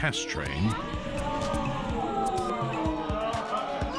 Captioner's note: cheering